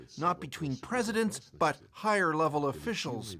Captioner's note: speaking alternate language